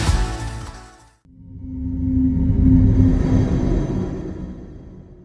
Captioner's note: electronic whooshing